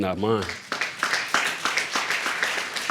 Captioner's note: audience applauding